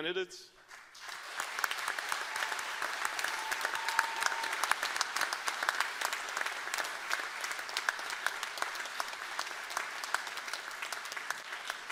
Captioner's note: cheers and applause